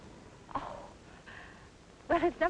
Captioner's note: scoffs